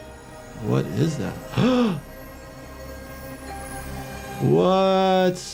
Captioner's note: gasps